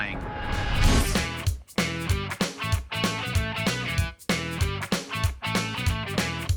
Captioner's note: air whooshing; upbeat hard rock music